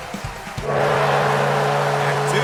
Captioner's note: gong